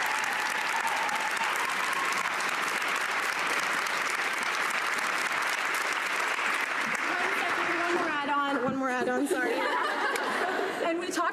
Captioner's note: cheering and Applause